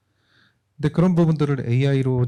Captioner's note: speaking korean